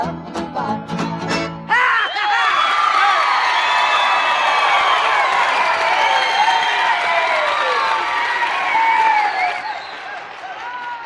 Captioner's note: music ends, cheers and applause